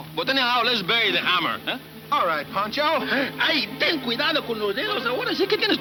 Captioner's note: speaking in foreign language